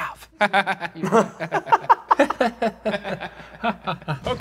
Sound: all laughing

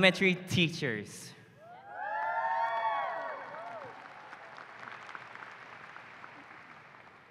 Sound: cheering

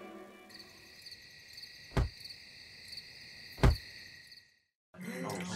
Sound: faint sound of knocking

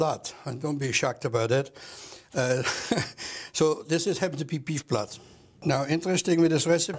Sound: laughs

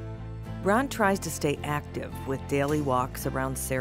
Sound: voiceover

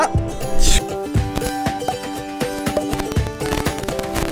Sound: microphone malfuction

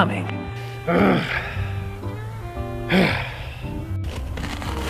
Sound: Bucky groans loudly

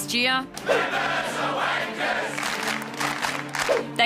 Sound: all clap

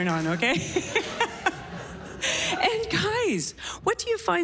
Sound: laughs

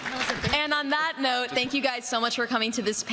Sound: applause

